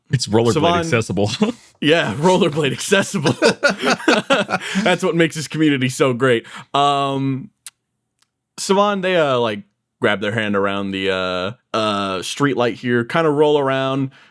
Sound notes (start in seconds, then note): 3.5 laughs